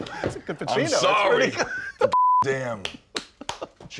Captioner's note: beep